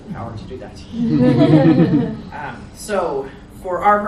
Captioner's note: audience laughs